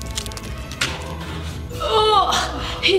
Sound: glob splorching

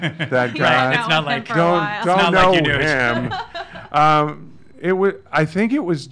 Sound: laughs; other people talking

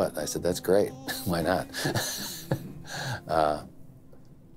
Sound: laughs

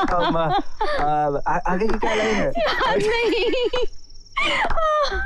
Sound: laughs

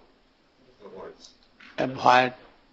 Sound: crowd

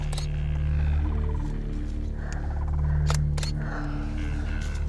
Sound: camera shutter clicking

